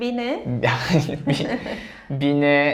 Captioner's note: laughs